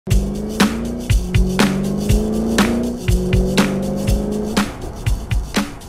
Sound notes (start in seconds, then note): 0.0 upbeat music; 0.1 car motor revving